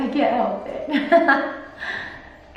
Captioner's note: laughing